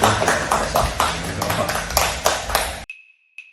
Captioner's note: applause